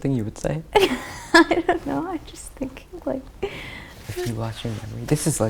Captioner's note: laughs